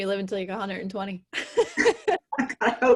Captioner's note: laughs